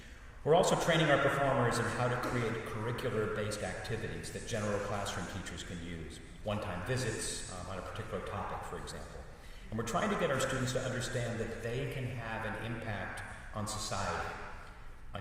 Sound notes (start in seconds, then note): none